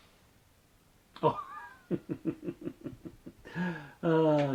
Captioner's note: laughs